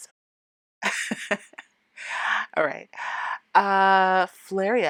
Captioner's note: laughing